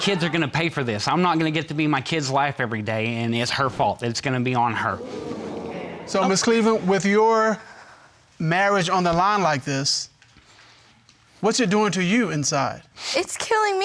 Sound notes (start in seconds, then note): 4.7 audience murmuring